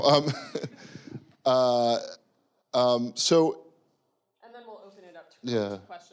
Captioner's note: audience member laughing